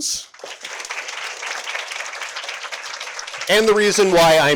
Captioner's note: audience applauding